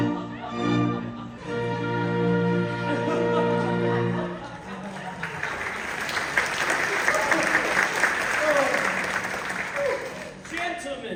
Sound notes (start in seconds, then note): 0.4 music concludes; 4.6 applause